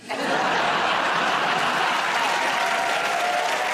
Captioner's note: laughter